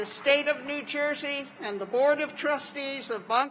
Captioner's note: applause